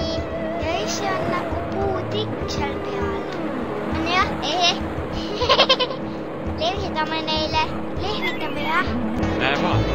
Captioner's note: giggle